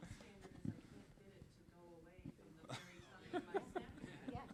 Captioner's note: laughing